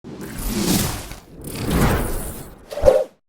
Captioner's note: whooshing